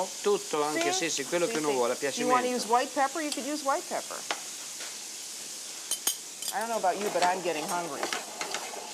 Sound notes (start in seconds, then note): 0.2 speaking Italian